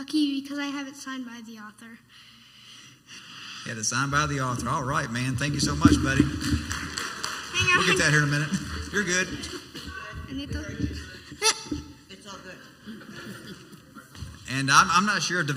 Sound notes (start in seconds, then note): 7.3 clapping; 14.2 laughing